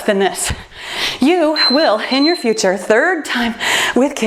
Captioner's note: timer beeps